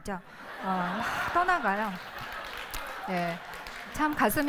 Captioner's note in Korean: 웃음; 박수와 웃음